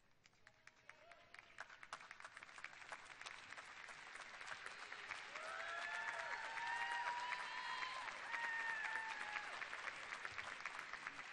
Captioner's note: cheers and applause